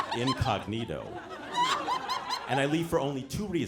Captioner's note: audience laughing